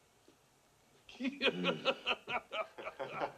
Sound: laughing; all laughing

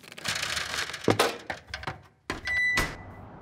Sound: metal clanks

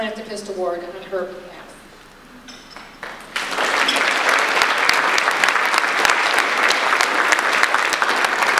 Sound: audience applause

